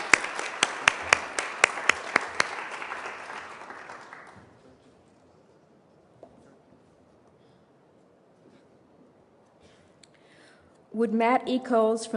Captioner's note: applause